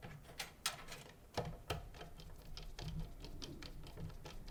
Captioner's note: metal clinking